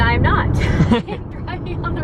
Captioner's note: both laugh